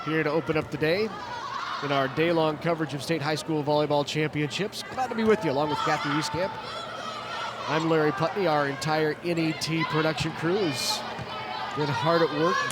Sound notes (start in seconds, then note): 7.2 players shouting indistinctly